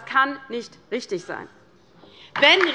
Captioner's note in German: Beifall bei der LINKEN